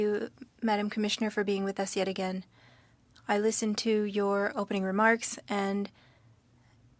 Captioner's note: speaking French